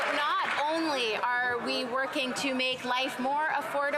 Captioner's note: applause